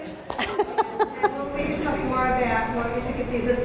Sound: laughing

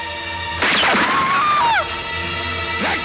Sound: gunshot

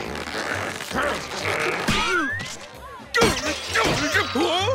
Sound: grunting

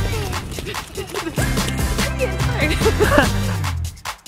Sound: mother laughing with children; upbeat music

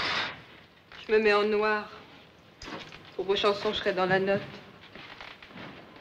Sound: speaks in foreign language

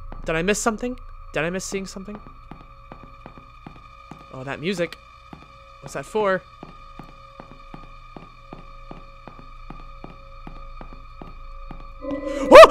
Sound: startled noises

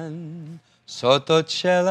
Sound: foreign language

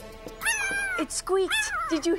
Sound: dog squeaks

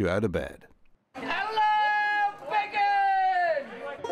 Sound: yelling

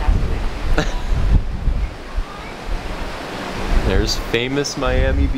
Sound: laughing

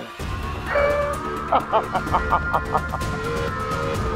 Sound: evil laughter

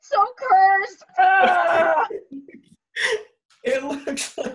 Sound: Harper screams

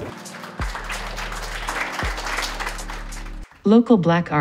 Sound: clapping

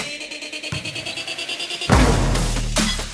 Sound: ball bouncing; ball thudding

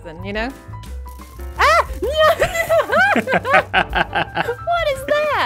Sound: laughs

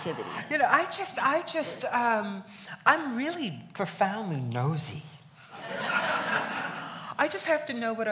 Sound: laughs

